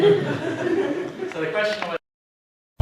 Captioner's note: laugh